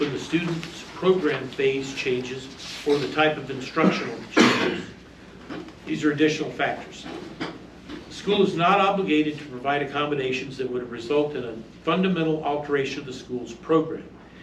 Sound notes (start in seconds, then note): 0.0 reading from paper; 3.7 multiple male audience members coughing